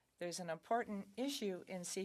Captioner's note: speaking French